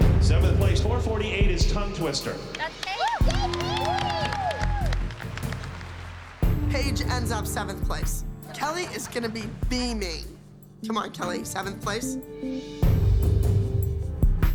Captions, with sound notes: Seventh place, 448, is "Tongue Twister." That's Paige. [applause and cheering] Paige ends up seventh place. Kelly is going to be beaming. Come on, Kelly, seventh place?